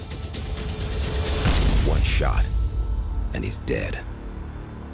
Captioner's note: gunshot